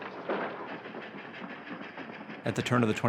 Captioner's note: train engine chugging